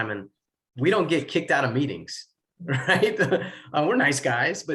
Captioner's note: laughs